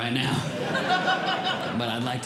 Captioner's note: audience Laughing